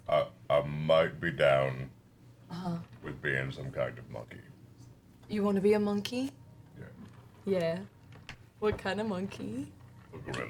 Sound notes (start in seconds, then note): none